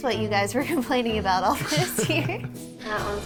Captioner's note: laughs